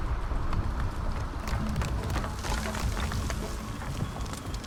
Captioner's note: light thoughtful music; truck engines whirring; wood rattling